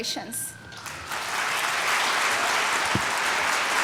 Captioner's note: applause